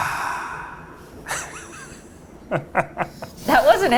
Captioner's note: laughs